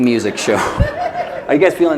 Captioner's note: laughter